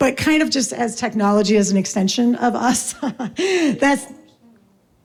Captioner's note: laughs